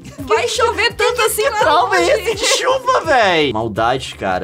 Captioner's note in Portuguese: risada